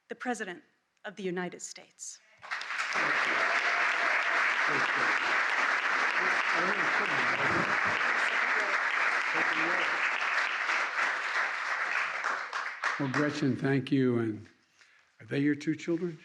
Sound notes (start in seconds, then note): 2.4 applause